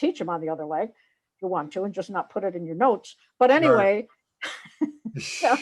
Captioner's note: laughs